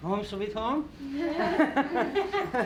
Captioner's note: laughter